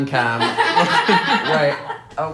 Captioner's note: group laughing